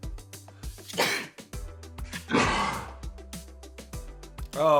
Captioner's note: sneezing